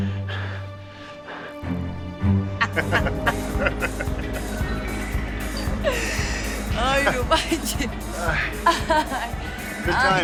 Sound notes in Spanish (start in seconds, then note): 2.6 Risas; 8.2 Risas